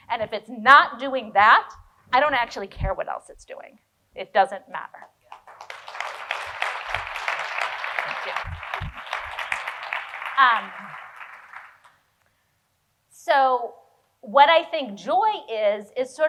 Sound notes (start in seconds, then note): 5.3 audience applauding